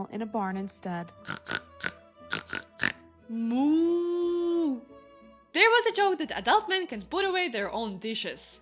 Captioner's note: sounds of pig; sounds of cow